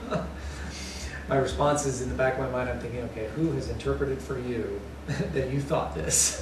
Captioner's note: laughter